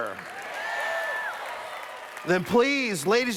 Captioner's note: cheers